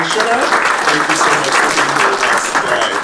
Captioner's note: audience applauding